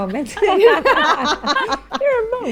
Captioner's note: all laughing